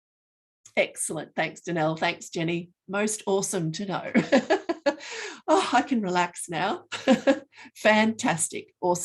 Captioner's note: laughing